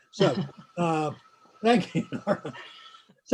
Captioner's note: laughs; laughs